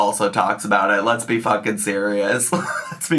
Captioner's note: laughs